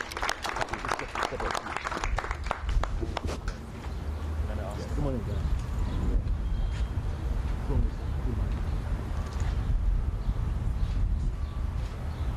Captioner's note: cheers and applause